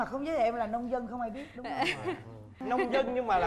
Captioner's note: laughing